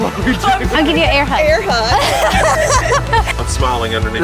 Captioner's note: laughs